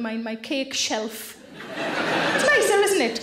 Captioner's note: audience laughing